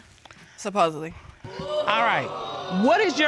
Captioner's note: audience exclaims